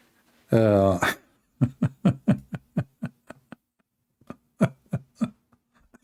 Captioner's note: Ketawa